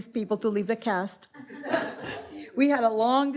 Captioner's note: audience laughs